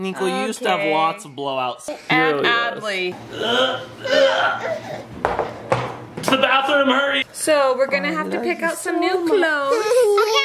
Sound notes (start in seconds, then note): 3.3 gagging noises